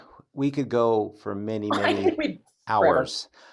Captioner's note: chuckles